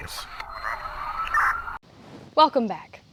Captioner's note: siren blaring